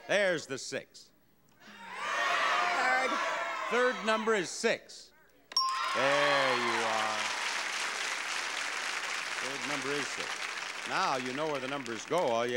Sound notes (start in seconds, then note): 1.7 audience yelling; 5.5 bell dings